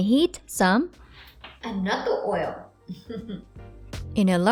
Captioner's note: chuckling softly